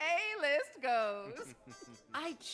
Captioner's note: frank and kt chuckle